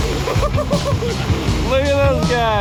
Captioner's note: shouting; laughing